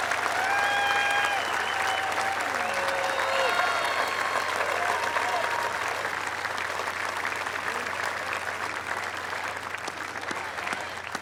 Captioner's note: applause